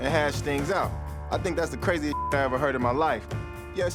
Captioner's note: beep